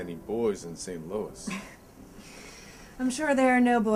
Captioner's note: chuckles